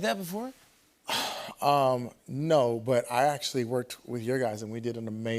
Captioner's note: sighs